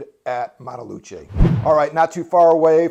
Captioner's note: air whooshing